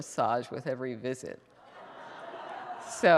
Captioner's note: audience members laugh